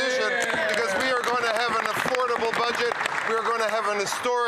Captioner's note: some Applause